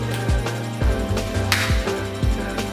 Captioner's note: clap!